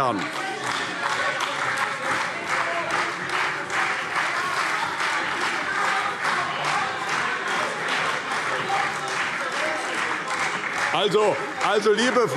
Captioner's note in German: Beifall CDU - Lebhafte Zurufe SPD, Freie Demokraten und DIE LINKE